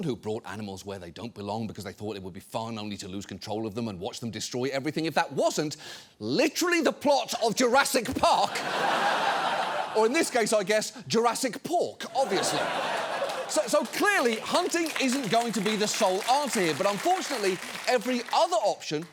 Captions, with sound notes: who brought animals where they don't belong because they thought it would be fun, only to lose control of them and watch them destroy everything, if that wasn't literally the plot of Jurassic Park. (STUDIO AUDIENCE LAUGHING) Or in this case, I guess, Jurassic Pork, obviously. (STUDIO AUDIENCE LAUGHING) So clearly, hunting isn't going to be the sole answer here. But unfortunately, every other option